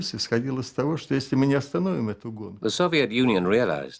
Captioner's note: speaking Russian